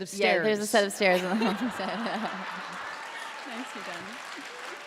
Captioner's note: laughter